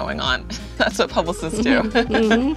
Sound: laughing

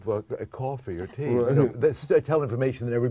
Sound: laughs

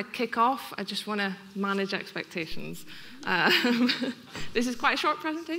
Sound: laughing

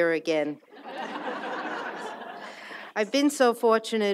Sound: audience laughs

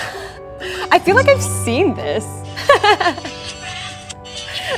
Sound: laughs; laughs

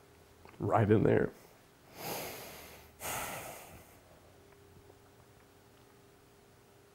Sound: sighs

